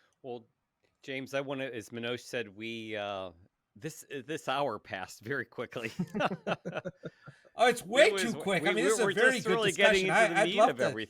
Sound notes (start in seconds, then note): 7.6 laughs